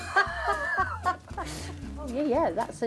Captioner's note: laughter